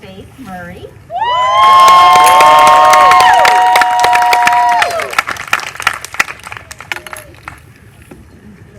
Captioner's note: applause